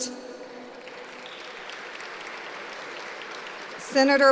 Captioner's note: applause